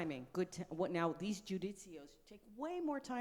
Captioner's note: speaks foreign language